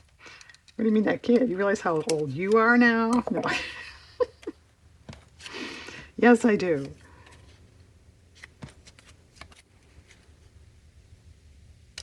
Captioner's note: laughs